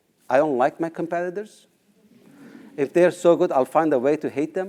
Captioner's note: laugh